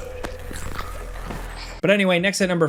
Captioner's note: character choking; neck breaking